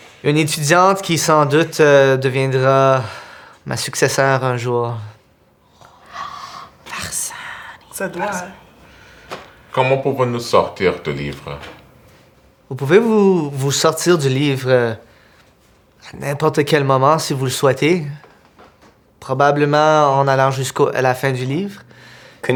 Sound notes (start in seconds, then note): 6.7 whispers